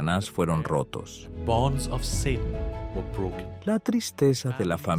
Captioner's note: Hablando idioma extranjero